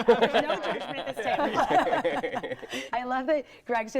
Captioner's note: laughing